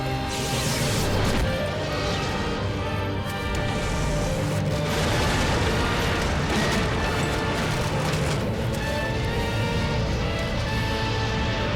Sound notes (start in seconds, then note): 0.2 electric sparking; 4.8 booming